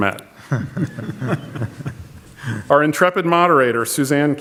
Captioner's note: audience laughs